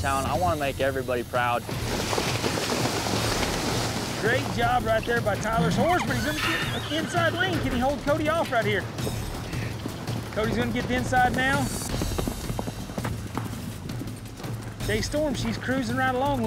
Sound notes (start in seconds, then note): 1.9 splashing; 5.2 horse whinnies; 12.1 galloping horses